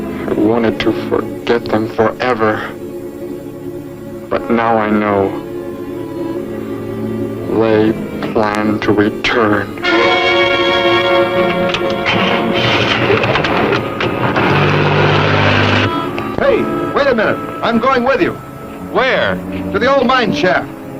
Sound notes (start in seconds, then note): 10.8 dramatic chords; 13.6 car key rattling; 16.5 car revving